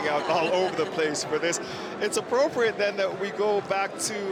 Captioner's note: cheers